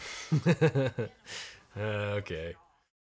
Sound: laughing

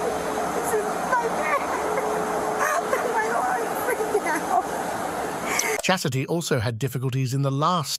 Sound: crying

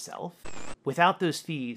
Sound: static

